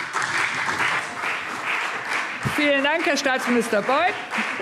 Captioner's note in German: Beifall CDU und vereinzelt BÜNDNIS 90/DIE GRÜNEN